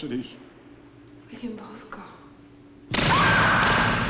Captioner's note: she screams